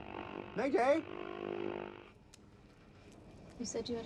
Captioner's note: radio static crackling